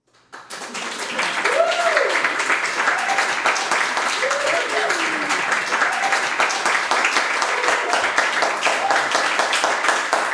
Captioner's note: audience applauds